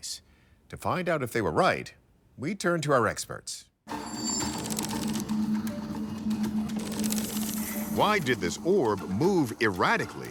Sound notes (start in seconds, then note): 3.5 text clacking; 3.9 intriguing dramatic music